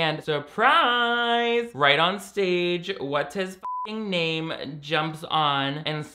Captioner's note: beep